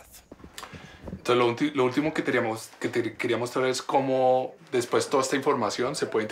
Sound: speaking in foreign language

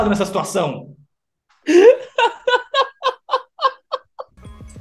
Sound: hysterical laughter

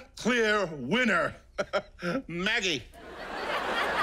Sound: chuckles

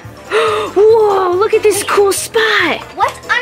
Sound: gasp

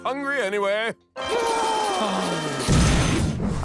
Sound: gasping

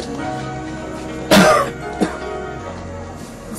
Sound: Benny coughing

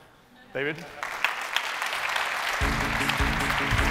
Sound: applause

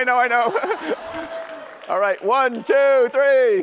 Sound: audience laughter; laughs

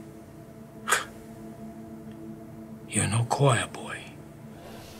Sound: scoffs

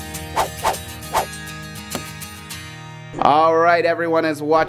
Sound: slashing noise

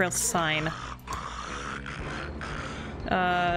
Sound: loud snoring and music

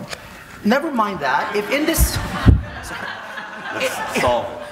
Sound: audience laughing

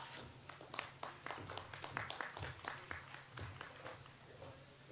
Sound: audience applauds

